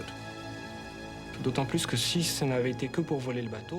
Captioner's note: speaking french